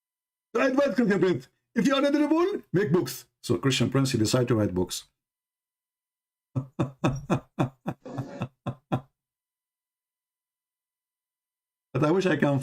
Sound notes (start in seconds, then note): 6.5 Ketawa